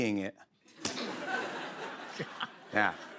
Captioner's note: laughter